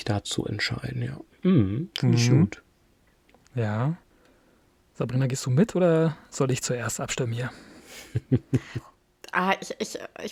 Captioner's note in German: gelächter